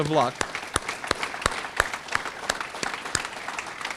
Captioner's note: audience clapping